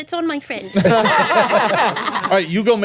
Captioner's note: everyone laughing